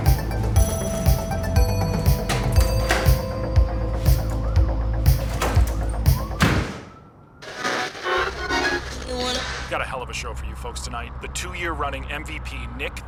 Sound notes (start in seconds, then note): 5.6 door slamming; 7.4 radio tuning static